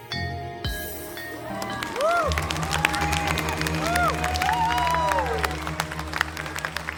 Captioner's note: audience applauding; audience cheering